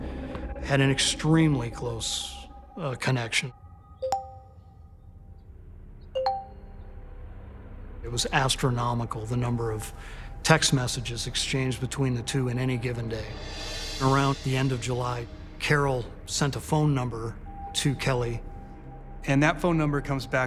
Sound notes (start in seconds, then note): 3.5 suspenseful music; 4.0 texts chiming